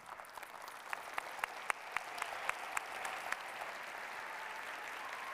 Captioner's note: applause